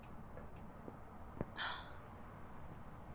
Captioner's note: sighing